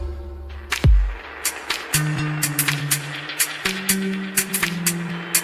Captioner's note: applause